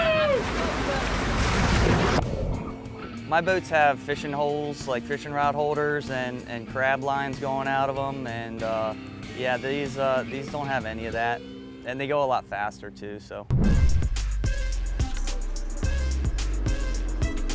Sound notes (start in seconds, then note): 0.0 whooping and hollering; 0.0 water rushing; 13.5 whoosh